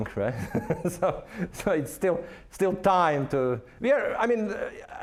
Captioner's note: laughing